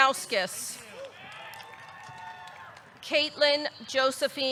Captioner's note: audience cheering; audience clapping